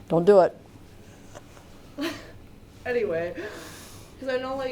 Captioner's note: laughs